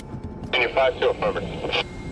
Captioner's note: radio tower chatter